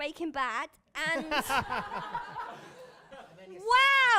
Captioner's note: laughter